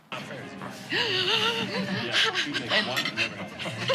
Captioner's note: inhales deeply; everyone chuckles loudly